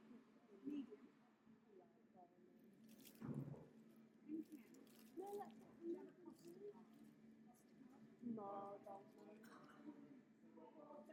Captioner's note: chatter